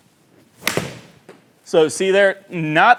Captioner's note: ball cracking